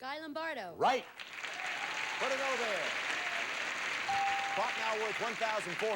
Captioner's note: audience applauding